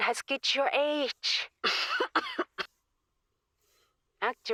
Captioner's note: coughing